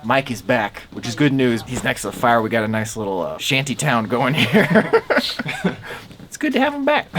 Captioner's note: laughs